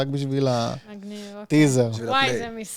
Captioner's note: sarcastic tone